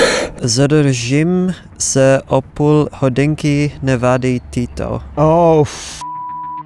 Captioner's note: speaking in Czech